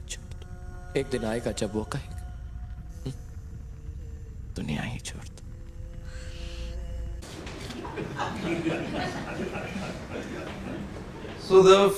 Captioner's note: laughter